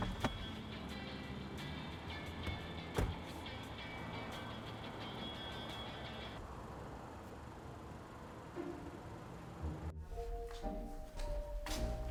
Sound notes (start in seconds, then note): 0.9 soft dramatic music; 2.8 car door thuds; 8.5 gentle soft suspenseful music